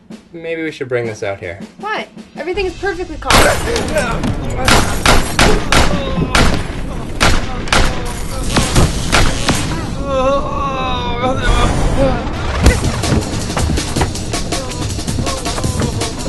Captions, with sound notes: Maybe we should bring this out here. -Why? Everything is perfectly calm. [GUNSHOT] [GUNSHOTS] [SOMEONE GRUNTS]